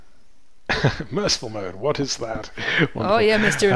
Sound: chuckles

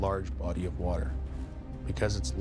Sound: voiceover

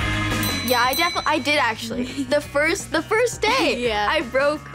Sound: bell Ringing

